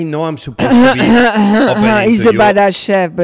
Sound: Dominique throat clearing

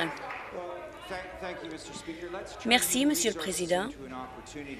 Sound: applause

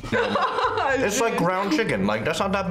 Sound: laughs

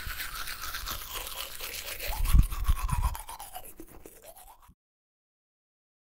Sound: still teeth brushing sounds; so many teeth brushing sounds

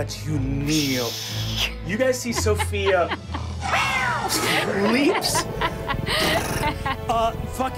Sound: laughs

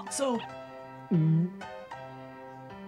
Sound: gulp

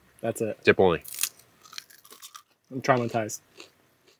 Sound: both snaps

